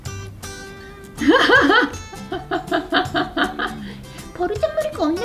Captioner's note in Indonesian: tertawa